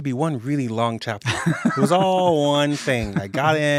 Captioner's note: laughs